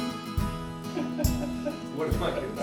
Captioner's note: laughing